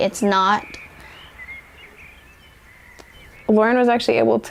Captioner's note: birds singing